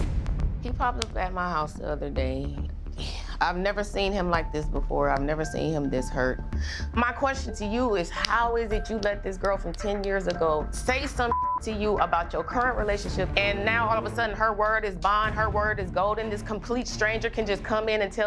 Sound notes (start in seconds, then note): 0.0 dramatic music; 11.2 beep